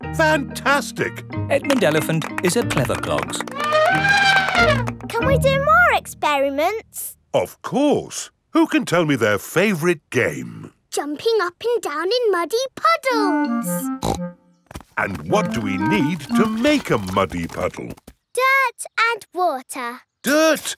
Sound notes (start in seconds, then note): 3.4 trumpets; 14.0 snorts